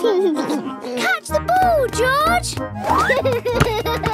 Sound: giggles

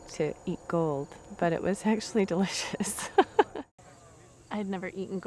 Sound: laughs

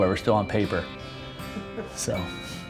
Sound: laughing

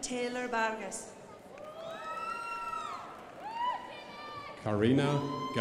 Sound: crowd applauding

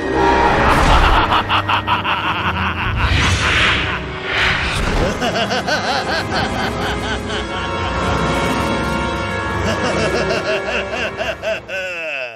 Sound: laughs

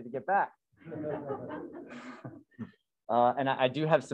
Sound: laughter

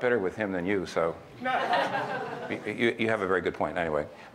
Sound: audience laughs

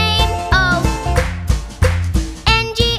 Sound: clap

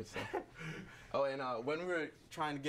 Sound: laughs

